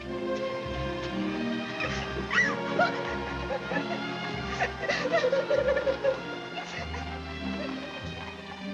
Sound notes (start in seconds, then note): 2.2 Annie crying